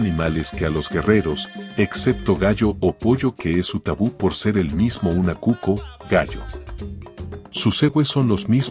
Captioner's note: rooster